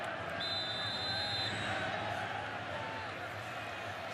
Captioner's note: whistle blowing